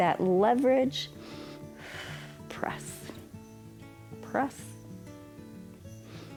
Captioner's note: inhales and exhales